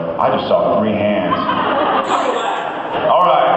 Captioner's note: laughs